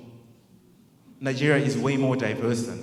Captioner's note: crowd murmurs